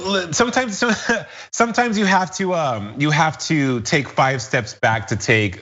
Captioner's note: laugh